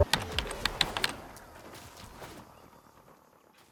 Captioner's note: typing